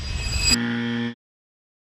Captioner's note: buzzer